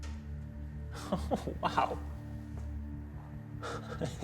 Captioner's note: chuckling